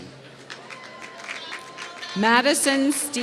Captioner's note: applause